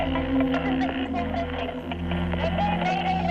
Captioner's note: static